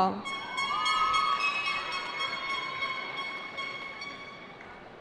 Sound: cheering

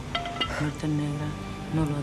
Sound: baton clatters

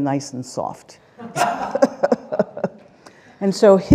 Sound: laughter

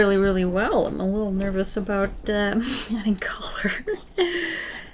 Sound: laughs

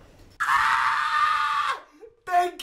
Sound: screaming

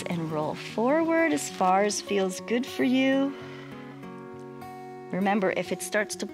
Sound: exhales

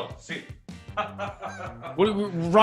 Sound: laugh

